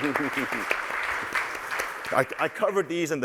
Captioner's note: applause